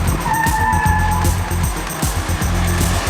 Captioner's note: tires screeching